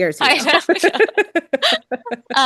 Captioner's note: laughs